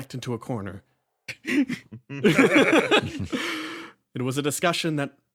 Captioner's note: laughs